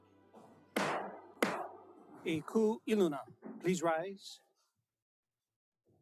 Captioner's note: gavel bangs twice